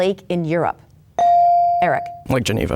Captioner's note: bell dings